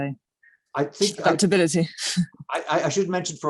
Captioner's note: chuckles